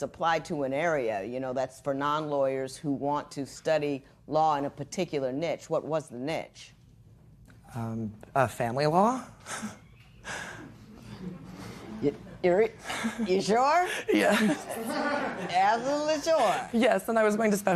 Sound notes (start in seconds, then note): 10.3 chuckles; 12.8 laughing